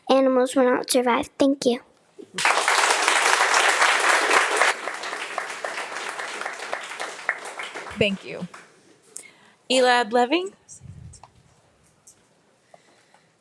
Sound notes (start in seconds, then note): 2.3 audience applauding